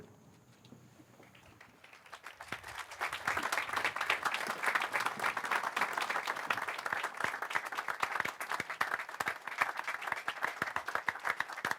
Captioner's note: applause